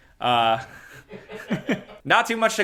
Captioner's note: laugh